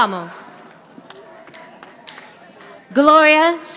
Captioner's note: audience applauding